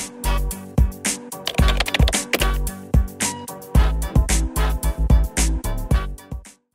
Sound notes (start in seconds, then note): 0.0 smooth music; 1.4 keyboard clicking